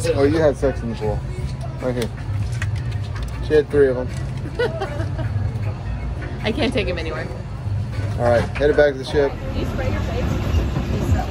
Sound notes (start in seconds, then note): 4.4 laughing